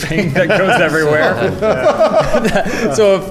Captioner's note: laughs